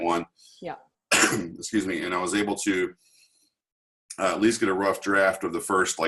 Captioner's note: coughs